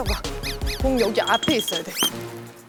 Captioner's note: stamping